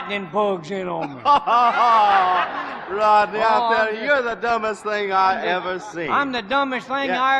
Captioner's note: laughing